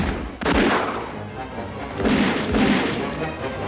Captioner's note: gunshots Continue; speaking Korean